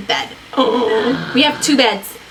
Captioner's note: both gasp